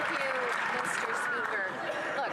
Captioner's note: some Applause